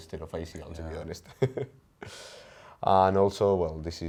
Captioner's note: chuckles